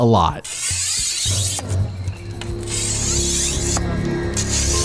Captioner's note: scraping machete